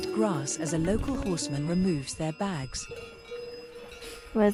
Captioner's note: bells jangle